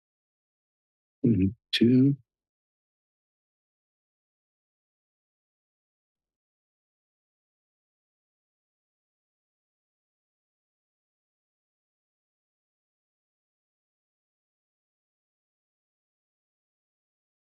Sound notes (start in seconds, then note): 2.7 silence